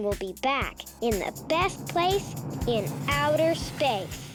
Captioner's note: rocket humming